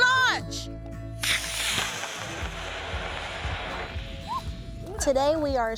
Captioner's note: rocket hisses